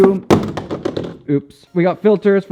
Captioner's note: gear crashing to the floor